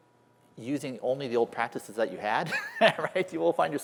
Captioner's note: laughter